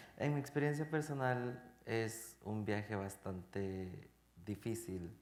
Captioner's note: speaking in Spanish